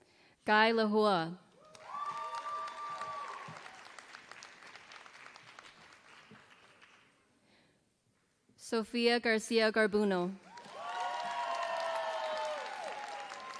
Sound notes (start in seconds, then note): 1.6 applause; 10.3 applause